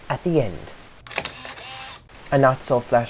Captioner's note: camera Click